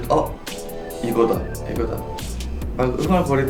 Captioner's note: shudder